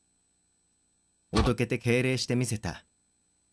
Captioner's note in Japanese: 敬礼する音：ザッ！